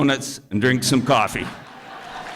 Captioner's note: applause